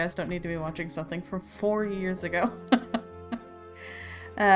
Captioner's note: laughs